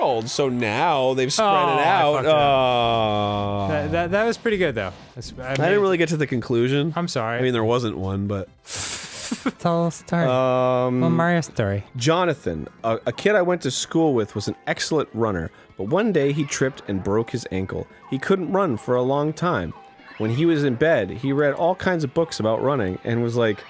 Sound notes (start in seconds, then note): 2.6 groans; 8.1 voice trails off; 8.7 snickers